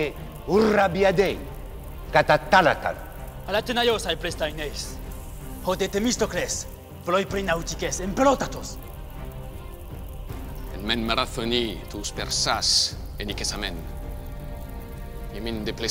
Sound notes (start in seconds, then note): 3.7 assembly member speaking in foreign language; 10.8 Themistocles speaking in foreign language